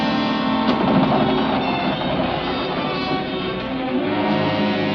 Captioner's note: bridge clattering